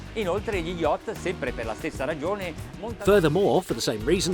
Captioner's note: speaking foreign language